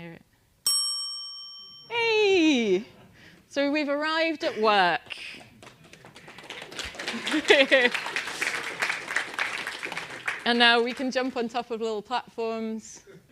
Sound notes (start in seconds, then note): 5.2 applause